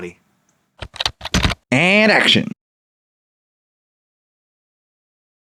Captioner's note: typing